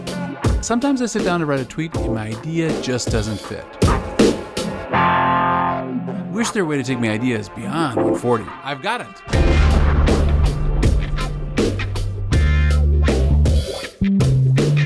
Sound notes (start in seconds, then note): 9.3 booms